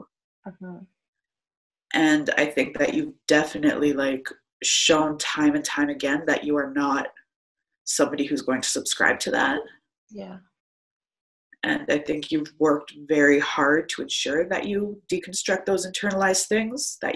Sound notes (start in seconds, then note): none